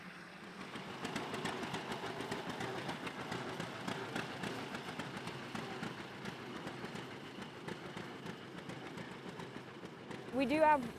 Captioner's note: steam engine running